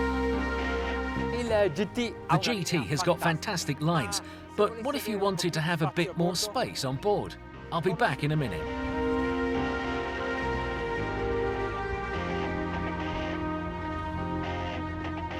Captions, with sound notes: (speaking in a foreign language) The GT has got fantastic lines, but what if you wanted to have a bit more space on board? I'll be back in a minute. (upbeat music)